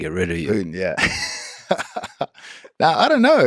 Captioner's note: Craig laughs